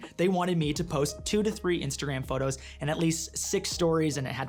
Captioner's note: none